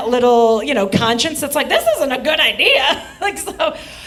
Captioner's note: laughs